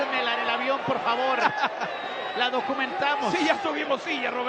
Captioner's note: laugh